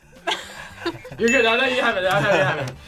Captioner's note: bell dings